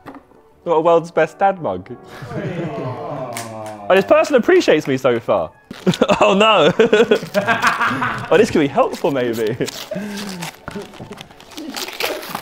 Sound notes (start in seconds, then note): 2.1 laughs; 5.8 laughs; 7.5 Vik laughing